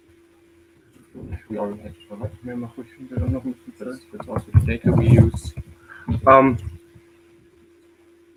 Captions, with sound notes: (speaks foreign language) It's also data we use.